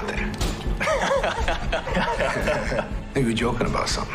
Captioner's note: men chuckling